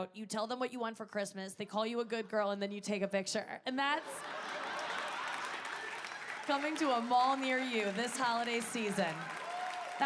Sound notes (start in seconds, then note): 4.0 audience laughing